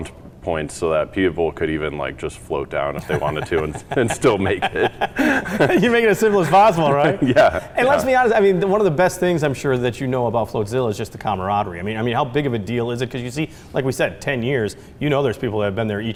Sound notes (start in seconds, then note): 2.9 both laugh; 2.9 laughs